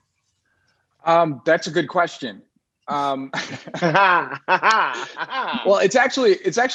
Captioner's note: laughing loudly